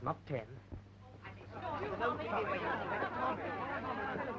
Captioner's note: chattering